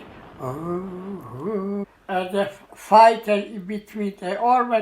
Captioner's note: imitating bomber planes